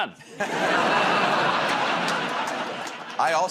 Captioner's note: laughter